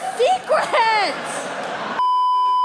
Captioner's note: audience laughter; beeeeeeeeeeeep